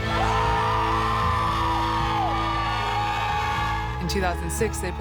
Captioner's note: team cheer